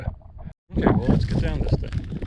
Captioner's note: air whooshing